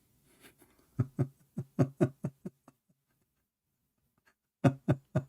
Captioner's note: Ketawa